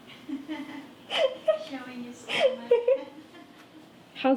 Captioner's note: laughing